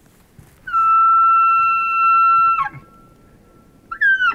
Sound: elk calling

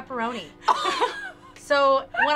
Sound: laughing

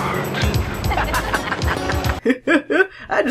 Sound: Mitch and Kaye laugh

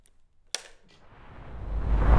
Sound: clapperboard claps; suspenseful music

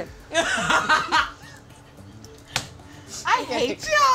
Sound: all laughing

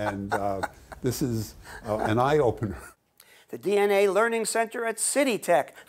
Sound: laughs; chuckles

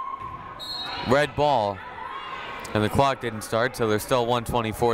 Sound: whistle blowing

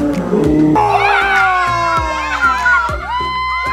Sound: cheers

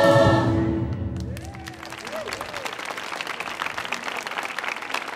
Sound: audience applauding

